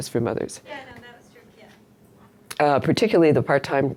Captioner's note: voiceover